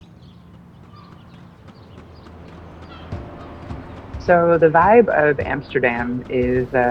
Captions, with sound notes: [birds chirping] [dramatic music] - So the vibe of Amsterdam is,